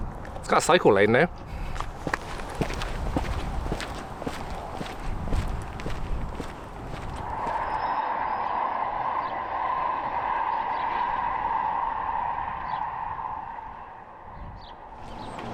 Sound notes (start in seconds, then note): 1.7 footsteps; 6.8 sound of Tram in distance